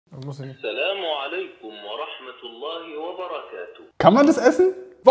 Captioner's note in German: Arabische Stimme spricht aus Gerät